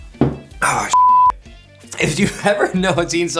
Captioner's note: beep